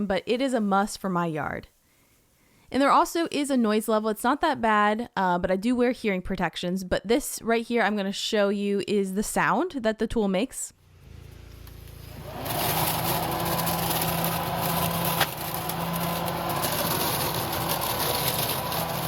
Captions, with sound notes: but it is a must for my yard. And there also is a noise level. It's not that bad, but I do wear hearing protections. But this right here, I'm gonna show you, is the sound that the tool makes. (tool humming and rattling)